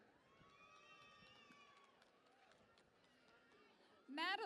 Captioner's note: cheering and Applause